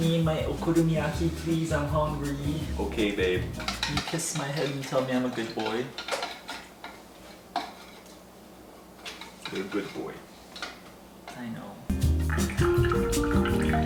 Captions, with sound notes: Make me my okonomiyaki please, I'm hungry. - Okay, babe. - Can you kiss my head and tell me I'm a good boy. - (lips smacking) You're a good boy. - I know.